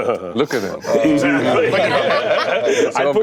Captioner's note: laughs; Seth laughs